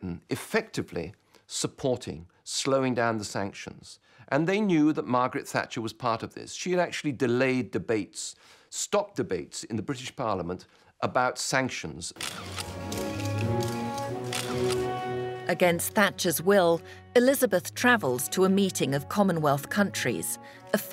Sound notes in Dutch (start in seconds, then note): 12.2 camera's klikken; 15.1 langzame muziek